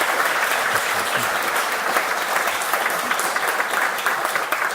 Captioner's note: applause